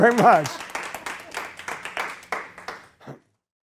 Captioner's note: audience applause